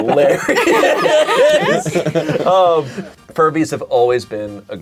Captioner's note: all laughing